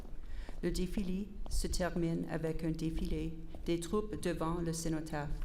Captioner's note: repeated in French